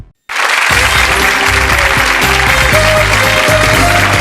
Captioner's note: audience clapping